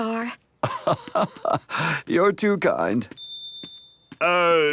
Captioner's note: laugh